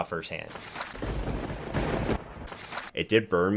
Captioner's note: thunder rumbling